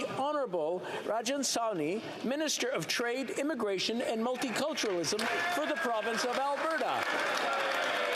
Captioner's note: applause